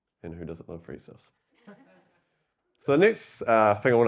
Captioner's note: audience laughing